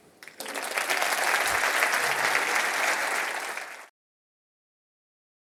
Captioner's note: applause